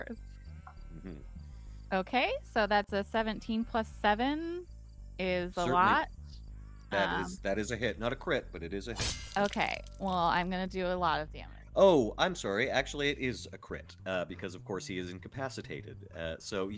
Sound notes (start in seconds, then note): 9.0 sword clashing; 10.6 liquid squelches